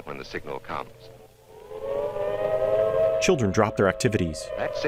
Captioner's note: siren